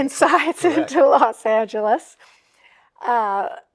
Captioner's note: chuckles